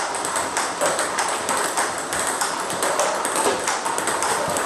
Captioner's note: ball ping pong hitting continues